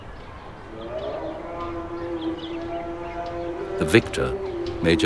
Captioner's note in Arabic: المؤذن ينادي عبر مكبر الصوت